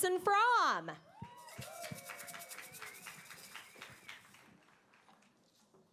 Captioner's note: applause